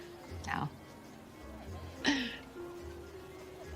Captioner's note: chuckling